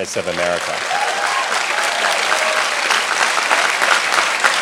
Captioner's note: audience clapping